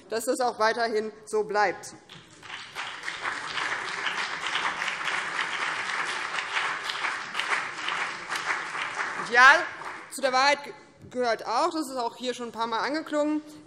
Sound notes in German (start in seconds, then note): 2.0 Beifall BÜNDNIS 90/DIE GRÜNEN und vereinzelt CDU